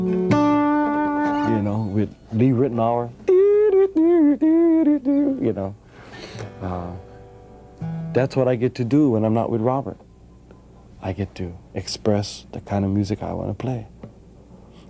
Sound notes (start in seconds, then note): 2.8 humming a melody